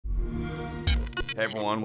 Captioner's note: xbox sound